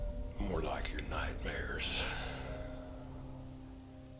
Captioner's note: sighing